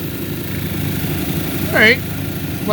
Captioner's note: grinding